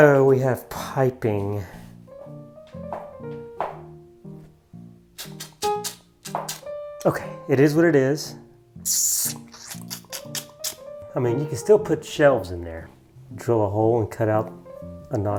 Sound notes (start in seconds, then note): 8.8 sucks teeth